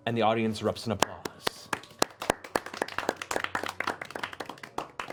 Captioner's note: applause